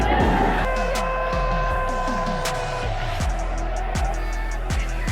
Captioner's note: crowd cheering